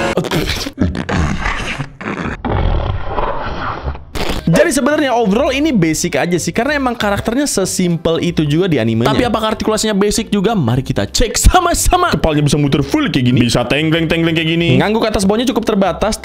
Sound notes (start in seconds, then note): 0.0 spitting; 4.0 distorted